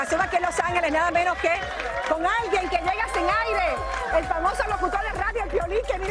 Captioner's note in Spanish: aplausos